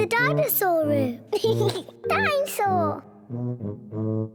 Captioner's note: laughs